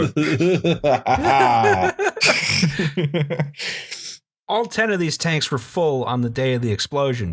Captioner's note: laughter